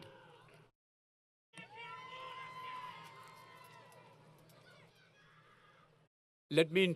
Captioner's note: crowd Yelling